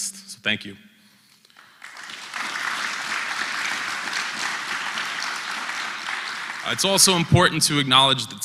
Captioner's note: applause